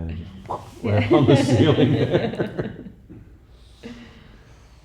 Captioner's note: laughing